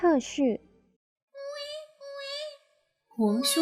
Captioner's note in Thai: เสียงเด็กร้อง